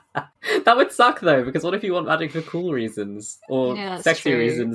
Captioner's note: laughs